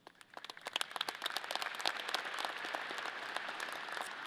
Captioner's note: audience applause